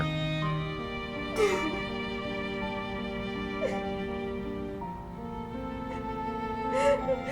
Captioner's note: melancholic music continues; Kim crying